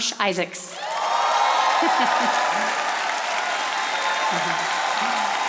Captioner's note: audience applauding